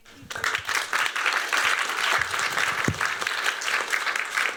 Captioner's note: applause